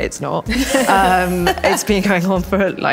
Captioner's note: all laugh